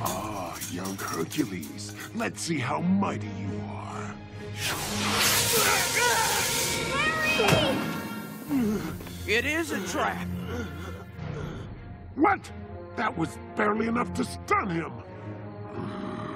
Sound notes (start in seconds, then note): 5.4 screaming; 8.8 sizzling; 9.6 groaning